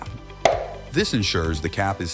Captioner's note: snap